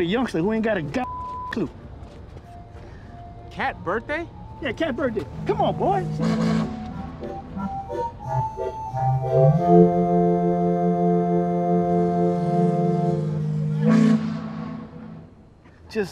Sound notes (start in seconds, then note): 6.6 ship horn whistles; 14.2 ship horn whistles